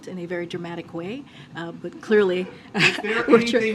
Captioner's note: laughter